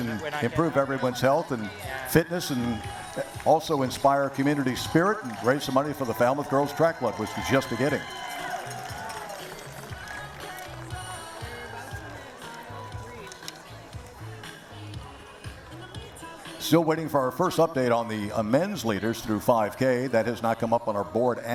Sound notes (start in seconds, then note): 13.4 cheering and applause